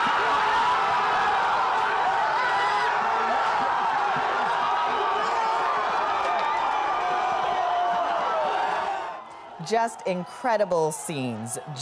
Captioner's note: cheers and Applause